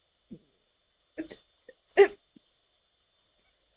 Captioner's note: noises of confusion and impressed